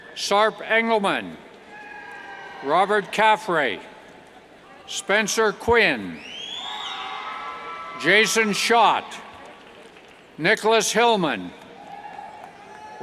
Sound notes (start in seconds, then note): 0.0 cheers; 6.1 cheers and whistles